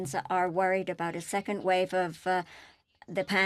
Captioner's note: speaking French